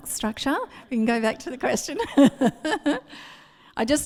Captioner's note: laughs